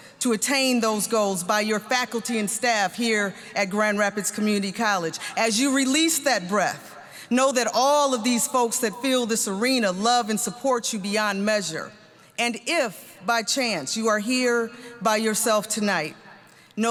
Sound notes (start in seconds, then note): none